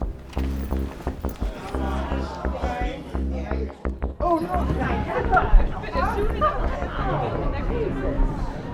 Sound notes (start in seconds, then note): 2.4 crowd whispering